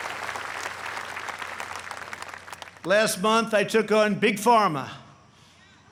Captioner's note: applause